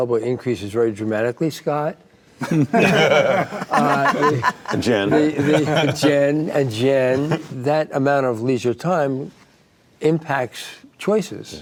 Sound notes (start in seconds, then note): 2.4 group laughing